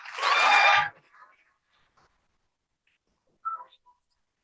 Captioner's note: cheering